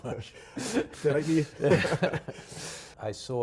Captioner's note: chuckles